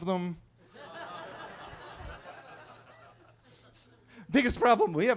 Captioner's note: attendees laughing